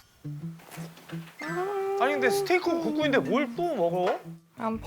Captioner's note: humming upon the thought of eating